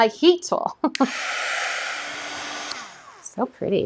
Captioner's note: heat tool whirring